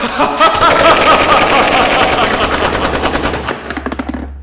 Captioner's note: gunfire